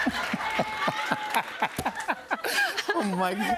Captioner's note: laughter